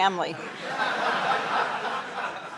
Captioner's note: laughter